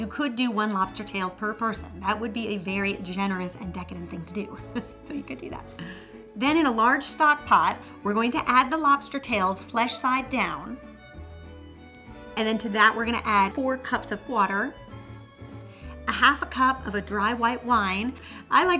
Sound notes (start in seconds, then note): 4.6 laughs